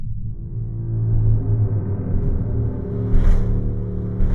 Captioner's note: ominous music; marching